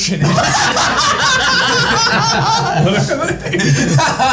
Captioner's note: all laughing